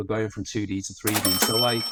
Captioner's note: cash register dings